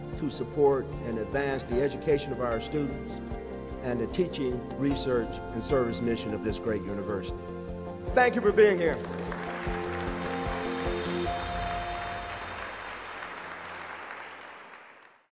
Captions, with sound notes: to support and advance the education of our students and the teaching research and service mission of this great University. Thank you for being here. (APPLAUSE)